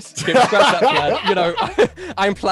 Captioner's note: laughing